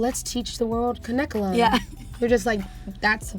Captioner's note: laughs